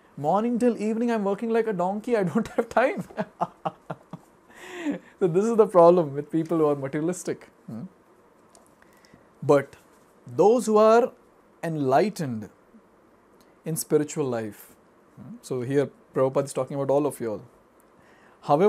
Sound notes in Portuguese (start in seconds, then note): 2.4 risos